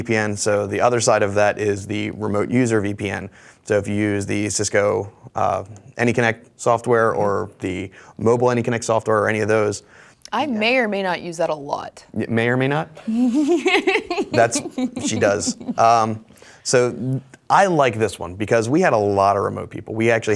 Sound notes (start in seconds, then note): 13.0 giggles